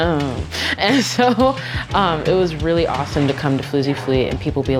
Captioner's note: laughs